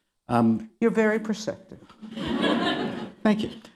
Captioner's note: laughter